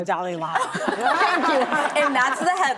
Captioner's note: audience laughs